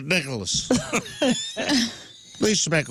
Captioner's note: laughing